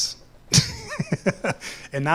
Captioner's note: laughs